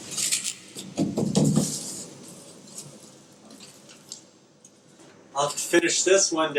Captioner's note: paper rustles; thumps canvas